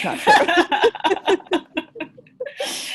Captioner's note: laughter